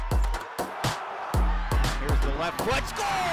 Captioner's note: upbeat music; crowd cheering